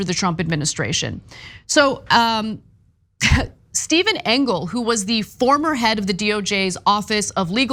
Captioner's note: cough